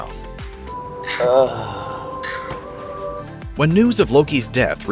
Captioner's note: Loki's death groan